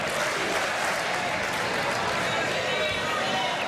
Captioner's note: chanting "usa, usa, usa"